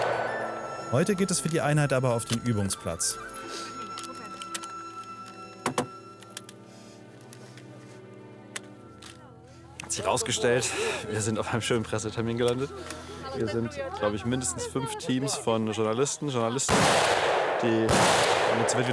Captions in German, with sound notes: Heute geht es für die Einheit aber auf den Übungsplatz. (Klappern) Hat sich rausgestellt, wir sind auf einem schönen Pressetermin gelandet. Hier sind, glaub ich, mindestens fünf Teams von Journalisten, Journalistinnen. (Schüsse)